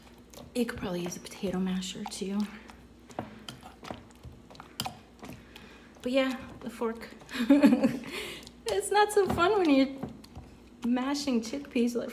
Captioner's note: laughs